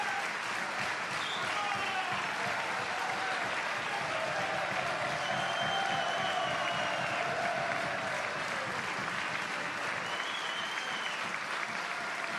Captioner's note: applause